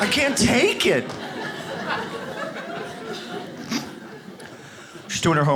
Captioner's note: audience laughs